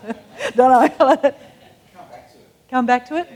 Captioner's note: laughs